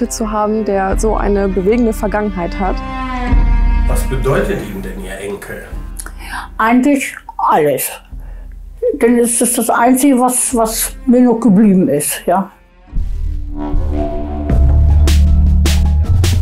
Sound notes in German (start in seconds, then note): 2.4 Beklemmende Musik; 12.5 Dröhnen; 14.5 Rhythmische Musik